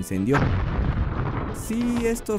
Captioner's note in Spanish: boom